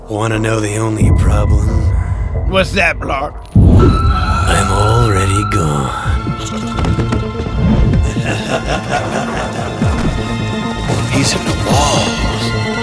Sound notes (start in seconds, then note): 8.0 ehehahahahahauhauhau